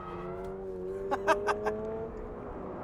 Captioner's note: laughs